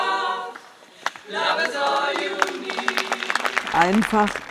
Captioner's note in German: Applaus